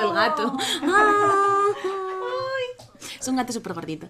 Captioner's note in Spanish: muchos "aaaww"